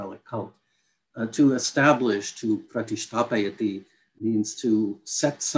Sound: non-english speech

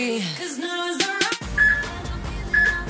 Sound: peep

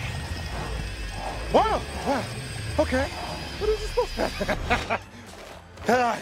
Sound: laughter

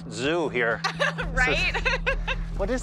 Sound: laughs

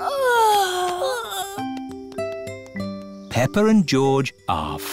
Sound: peppa and george yawning

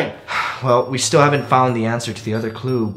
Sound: sigh

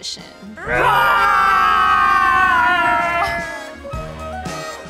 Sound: roaring all together; outro music

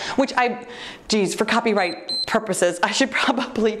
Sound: timer beeps

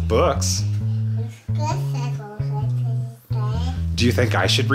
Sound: mumbles

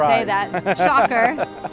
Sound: laughs

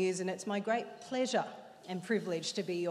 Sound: none

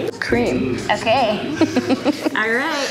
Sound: chuckles

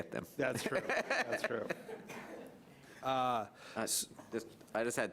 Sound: laughs

